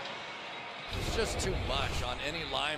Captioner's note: swoosh